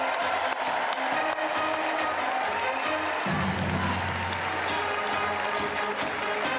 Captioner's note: cheers and applause